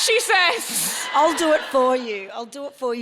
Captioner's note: audience laughing